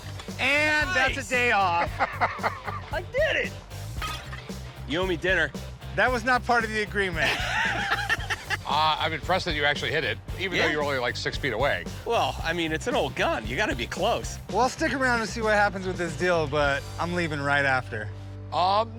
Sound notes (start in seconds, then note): 1.6 laughter